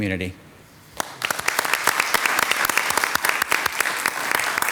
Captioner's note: audience clapping